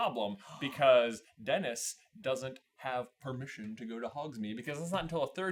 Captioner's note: gaaaaaaaaaaasp